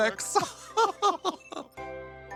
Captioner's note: laughs